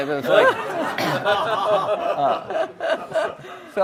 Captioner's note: audience laughs